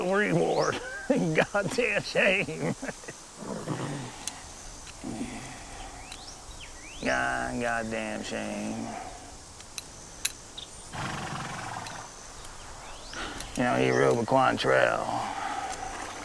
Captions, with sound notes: (chuckles) A goddamn shame Yeah, a goddamn shame. (horse snorts) You know, he rode the Cowan trail.